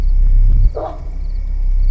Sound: dog barking

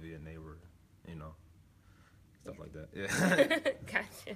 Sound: laughs

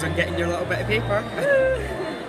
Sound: laughs

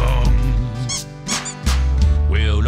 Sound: squeaky duck

